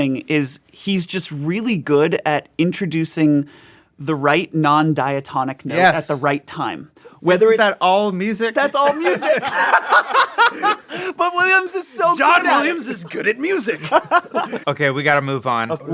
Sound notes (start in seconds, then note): 8.5 all laughing